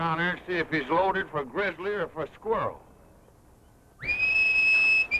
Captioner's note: whistles